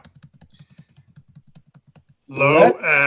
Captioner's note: types on keyboard